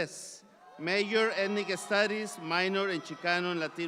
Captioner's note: audience applauds